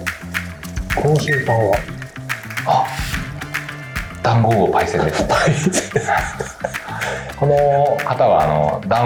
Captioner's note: laughs